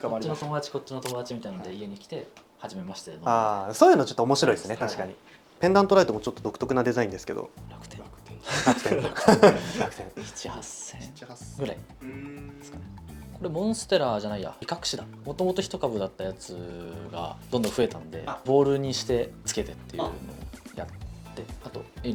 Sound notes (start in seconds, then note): 8.4 laughs